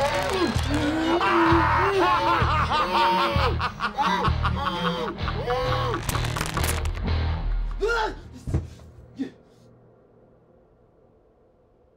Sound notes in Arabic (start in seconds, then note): 7.8 صراخ